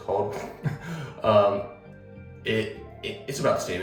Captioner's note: presenter laughs